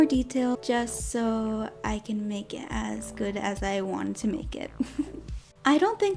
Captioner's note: giggles